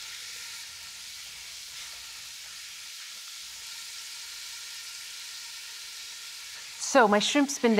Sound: sizzling

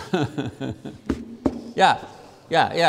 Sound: laughs; papers tap loudly on podium

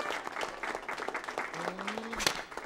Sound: gasps

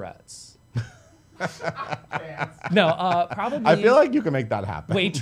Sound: laughing

